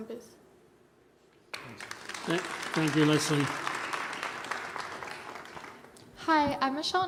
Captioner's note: applause